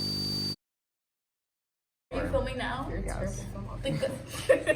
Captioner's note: high-pitched buzzing